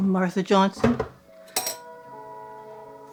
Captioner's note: metal clinking